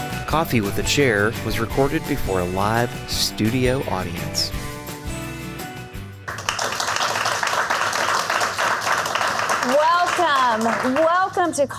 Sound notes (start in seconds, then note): 0.0 upbeat music; 6.2 applause